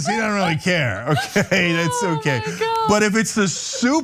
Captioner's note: laugh